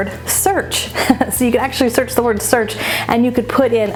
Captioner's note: laughs